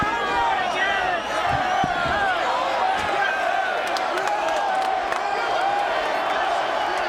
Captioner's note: audience cheering; audience shouting